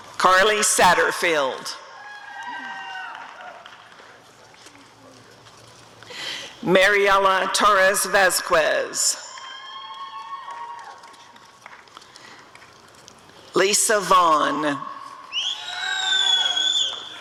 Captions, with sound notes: Carli Satterfield [applause and cheering] Mariela Torres-Vasquez [applause and cheering] Lisa Vaughan [cheering and whistling]